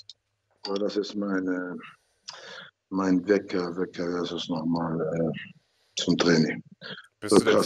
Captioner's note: laughs